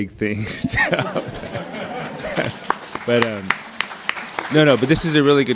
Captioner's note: crowd laughs and claps